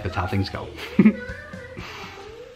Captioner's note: laughs